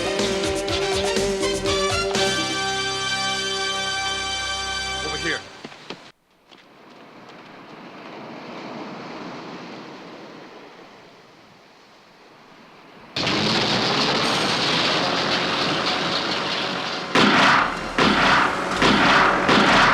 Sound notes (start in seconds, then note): 7.7 waves rustling; 13.1 boat rumbling; 13.5 shack clattering; 17.2 gun firing